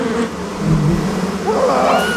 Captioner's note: cris fort